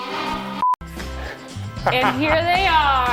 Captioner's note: beep